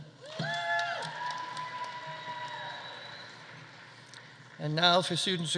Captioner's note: audience cheering; audience applauding